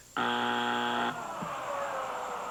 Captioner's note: buzzer